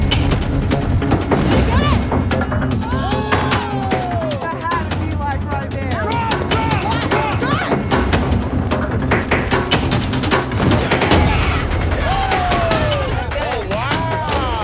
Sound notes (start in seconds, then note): 11.0 cheering